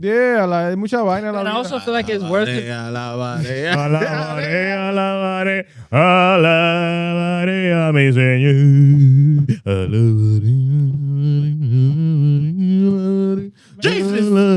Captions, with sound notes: And I also feel like it's worth it. (Singing In Foreign Language) (Humming) Jesus!